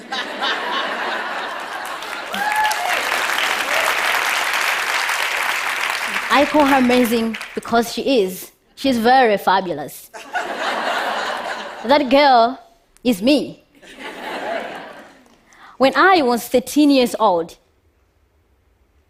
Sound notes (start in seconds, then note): 0.0 laughter; 1.3 applause; 14.4 laughter